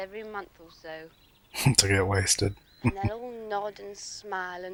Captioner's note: chuckling